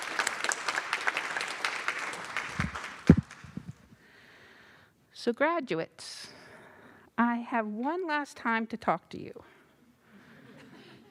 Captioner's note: applause